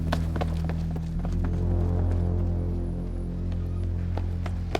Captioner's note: footsteps pattering